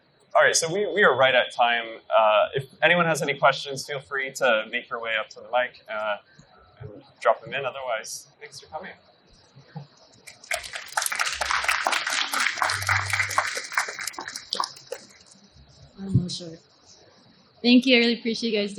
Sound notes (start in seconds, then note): 10.2 applauding